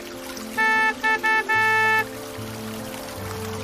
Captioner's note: car honking